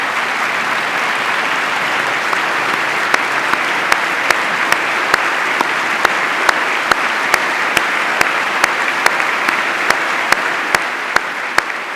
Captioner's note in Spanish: aplauso